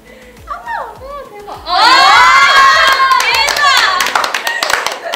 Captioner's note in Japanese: 拍手喝采